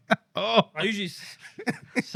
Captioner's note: laughing